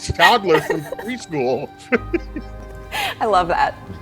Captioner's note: both laughing